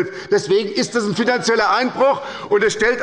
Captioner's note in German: Zurufe von der CDU